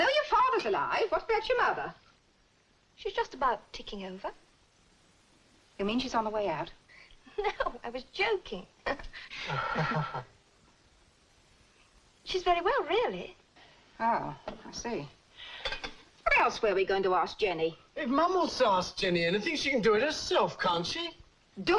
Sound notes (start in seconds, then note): 9.3 laughs; 9.5 Len laughs nervously